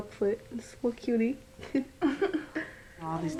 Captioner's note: laughs